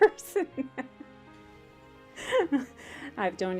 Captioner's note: hearty laugh